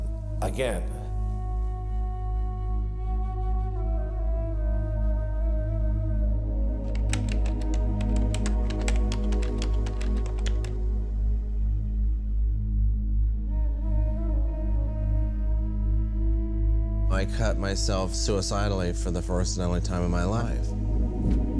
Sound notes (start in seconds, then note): 2.7 tense music playing; 6.9 keypad beeping